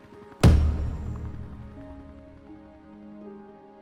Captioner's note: stamp thuds